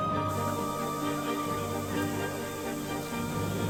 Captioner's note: spray hisses